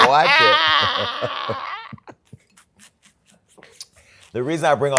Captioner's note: laughing